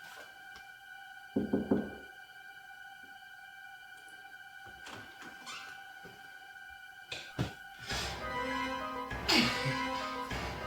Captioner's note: knocking